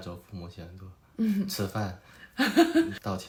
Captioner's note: laughs